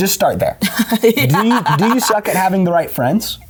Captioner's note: laughs